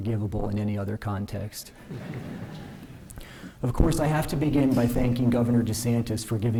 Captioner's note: laughter